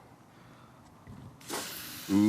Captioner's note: steak sizzles